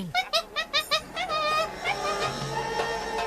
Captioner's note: monkey chattering; arabic instrumental music